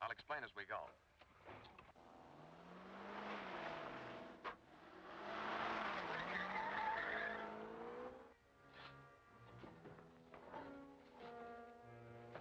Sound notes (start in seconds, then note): 5.2 car engine revving; 6.4 car screeching